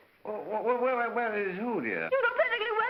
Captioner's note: stammering